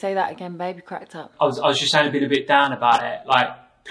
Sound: tinny, distorted

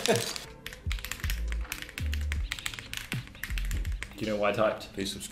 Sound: laughing; keys clicking

